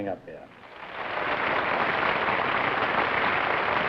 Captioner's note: applause